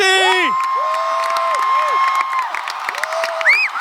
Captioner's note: audience clapping and cheering